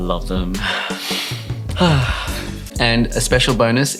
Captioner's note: sighs